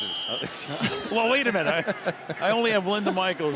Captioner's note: laughs